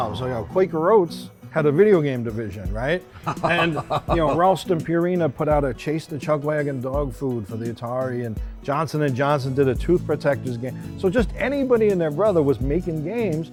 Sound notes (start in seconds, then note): 3.1 laughs